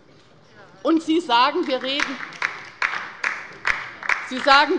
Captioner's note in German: Beifall bei der LINKEN